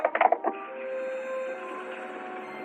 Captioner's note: truck rattling